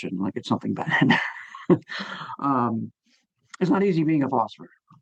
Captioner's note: chuckling